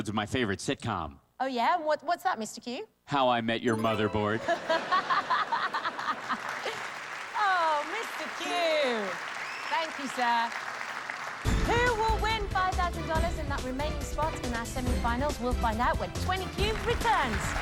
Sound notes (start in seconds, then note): 4.3 laughter